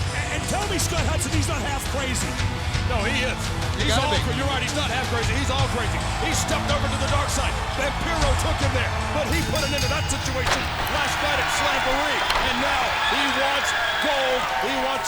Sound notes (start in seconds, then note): 9.2 bell dings